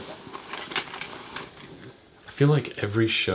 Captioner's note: gentle rattling